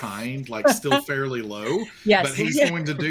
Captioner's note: laughs